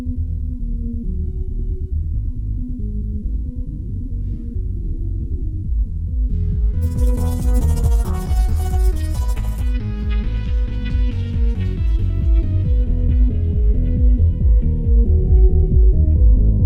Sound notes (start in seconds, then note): 6.9 eerie scuttling; 8.8 sinister music plays